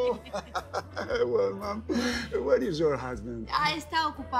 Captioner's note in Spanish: Risas